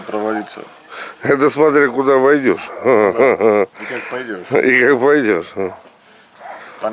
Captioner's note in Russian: смех